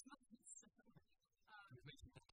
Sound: laughter

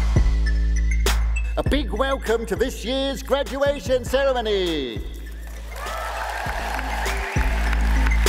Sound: audience cheers

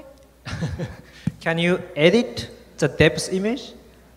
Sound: laughs

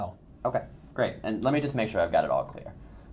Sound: voiceover

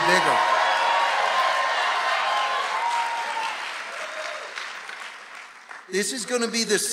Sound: audience cheering and applauding

